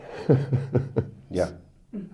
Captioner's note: Neil laughs